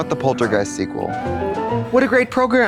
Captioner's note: bright chime